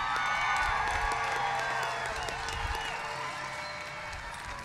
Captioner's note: cheers and applause